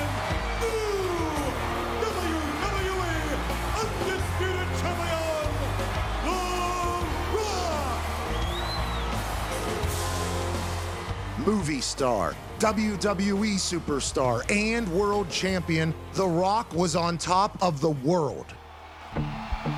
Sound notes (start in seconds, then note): 7.9 dramatic music; 8.7 crowd cheering; 18.2 crowd cheering; 19.1 dramatic music